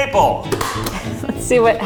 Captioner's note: stapler clicks